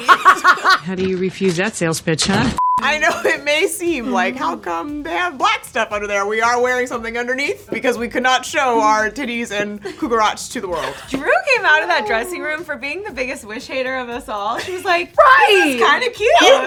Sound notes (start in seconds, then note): 0.0 laughs; 2.6 high pitched beep